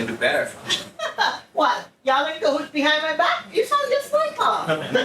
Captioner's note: laughs